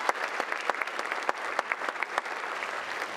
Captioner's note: applause